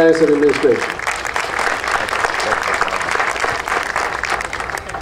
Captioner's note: audience applauding